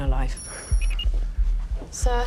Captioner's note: computers beeping